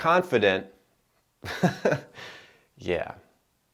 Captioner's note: giggling